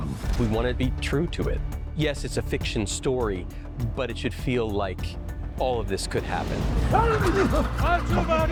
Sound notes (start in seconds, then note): 0.0 non-english speech; 6.9 yelling; 7.9 non-english speech